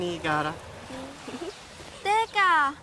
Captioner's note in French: giggles